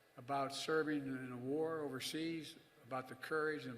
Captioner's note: none